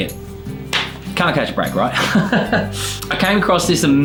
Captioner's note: laughs